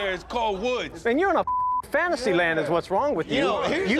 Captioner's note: beep